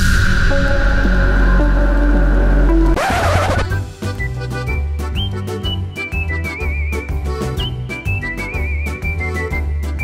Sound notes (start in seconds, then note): 0.0 intense music; 2.6 playful polka music; 2.9 needles scratches record